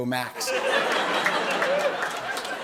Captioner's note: laughter